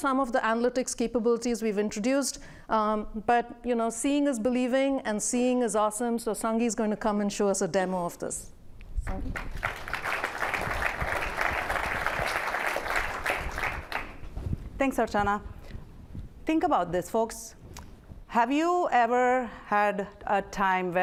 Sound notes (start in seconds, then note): 9.1 applause